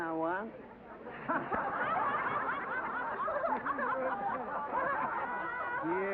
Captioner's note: laughter